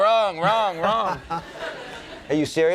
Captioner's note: Stephen laughing